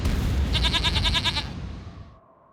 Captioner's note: bleats